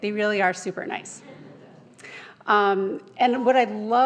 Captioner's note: audience laughing